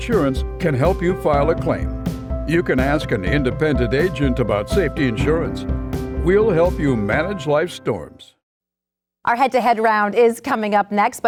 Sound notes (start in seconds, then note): none